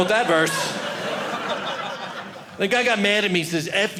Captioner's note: audience laughing